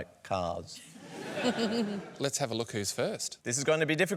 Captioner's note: laughter